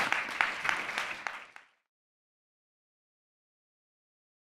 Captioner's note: audience applause